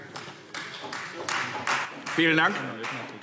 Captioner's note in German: Beifall Freie Demokraten